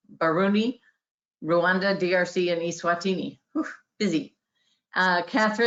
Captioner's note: exhales